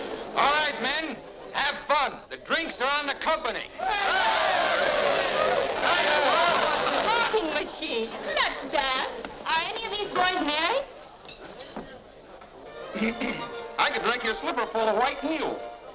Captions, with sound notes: All right, men, have fun. The drinks are on the company. [men cheering] A talking machine. Let's dance. Are any of these boys married? [lively dance music] I could drink your slipper full of White Mule.